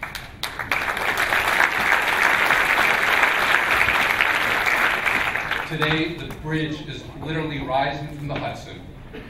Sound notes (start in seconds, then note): 0.0 clapping